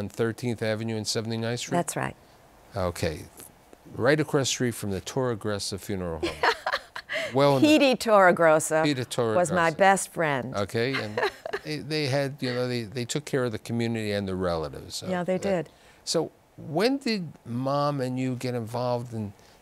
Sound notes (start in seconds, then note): 10.8 laughter